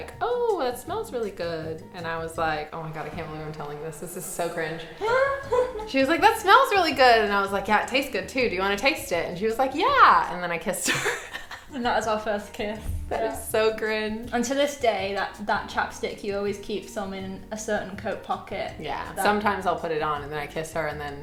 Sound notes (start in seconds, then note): 5.0 laughing; 10.8 laughing